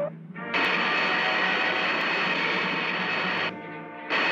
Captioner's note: lasers blasting